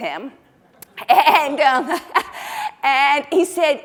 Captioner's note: laughing